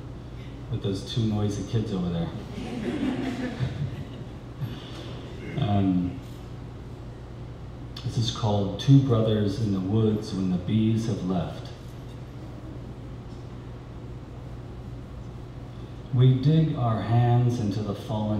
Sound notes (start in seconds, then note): 2.5 laughter